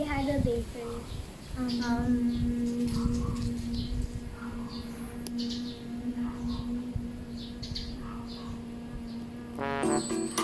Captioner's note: humming sounds